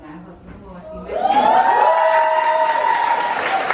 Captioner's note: applause